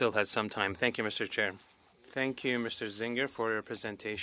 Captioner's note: speaking French